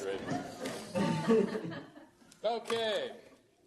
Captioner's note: laughter